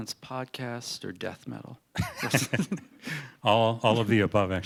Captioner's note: laughter